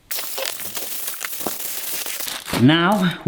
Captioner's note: foil crackling